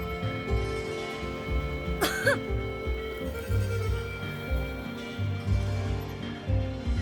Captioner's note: ahem